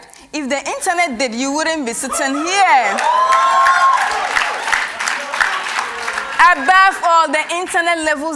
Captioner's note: cheers and Applause